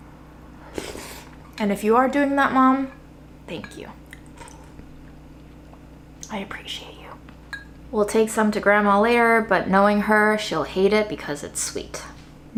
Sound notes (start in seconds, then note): 0.7 slurping